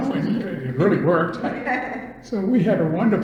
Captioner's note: all laugh